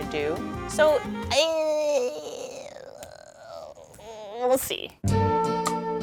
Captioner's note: groans; calm jazz music